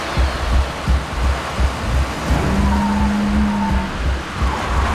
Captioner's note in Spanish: Ruido del vehículo